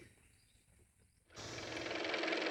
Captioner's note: car motor